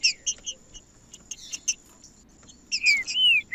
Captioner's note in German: trinca ferro cantando